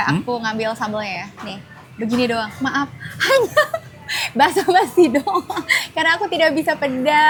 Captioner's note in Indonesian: tertawa